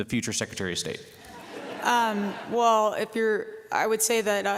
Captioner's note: laughter